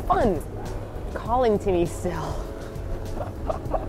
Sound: giggles; laughs

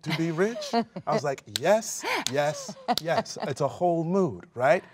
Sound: fingers snapping

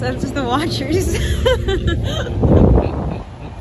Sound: chuckles

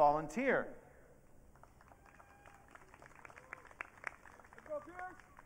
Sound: audience cheering

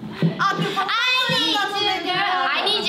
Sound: laughs; speaking in Korean

